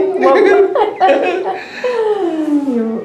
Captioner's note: laughter